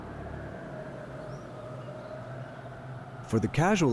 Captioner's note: wind howling